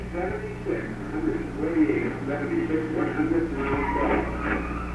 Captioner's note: announcer echoing